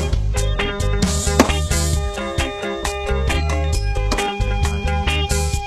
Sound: upbeat keyboard music continues; beanbags hit boards; upbeat keyboard music continues

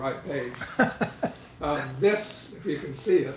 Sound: laughing

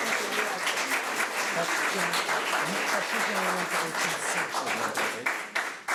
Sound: clapping drowning out speakers

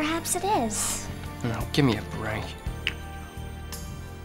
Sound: eats

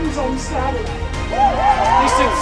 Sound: crowd cheering

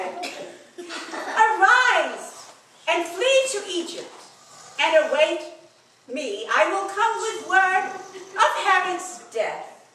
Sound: Joseph continues to snore

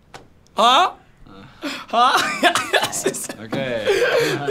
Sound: laughs

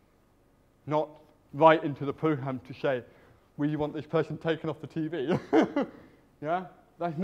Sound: laughs

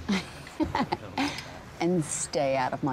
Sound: laughing

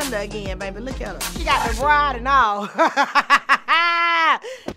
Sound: laughing

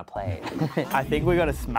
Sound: giggles

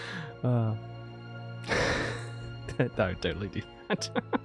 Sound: laughs

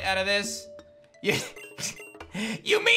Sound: chuckles

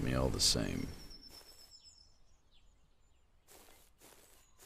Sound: birds chirping

